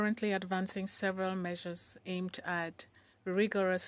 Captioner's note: speaking French